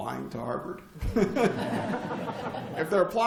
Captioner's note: laughter